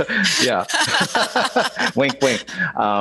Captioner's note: laughing